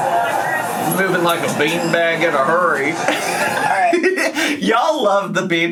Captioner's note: laughs